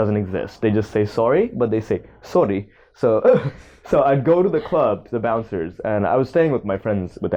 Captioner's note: Dutch accent